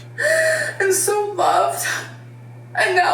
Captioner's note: sobbing